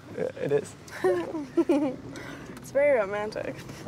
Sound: Kristin giggling

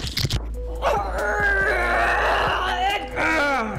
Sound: groans

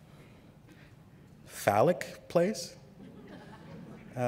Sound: laughter

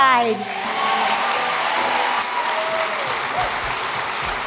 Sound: applause

